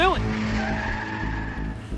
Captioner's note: tires squeal